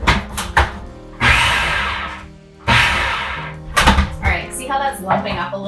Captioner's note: food processor blending